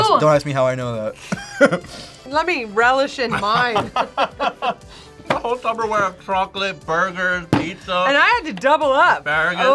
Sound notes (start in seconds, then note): 3.2 both laugh; 3.3 laughs